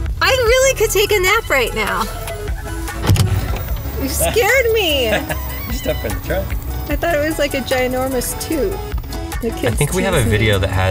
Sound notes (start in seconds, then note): 2.2 car door bangs